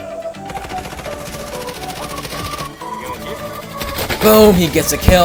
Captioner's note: players laughing; gun firing